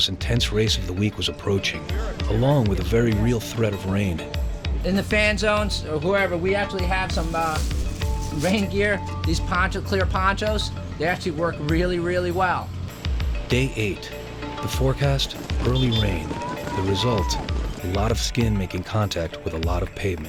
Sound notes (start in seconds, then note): 13.5 voiceover